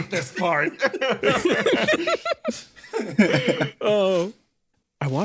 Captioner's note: laughs